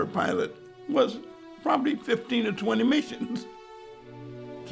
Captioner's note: chuckles